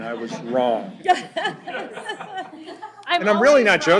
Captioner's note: laughter